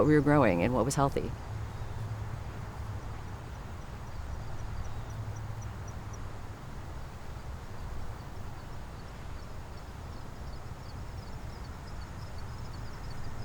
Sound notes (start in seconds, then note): 5.4 birds chirping